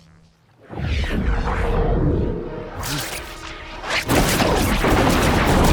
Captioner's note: whooshing, zapping; thundering